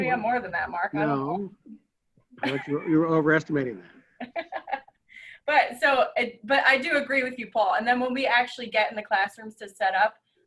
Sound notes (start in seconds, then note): 4.1 laughing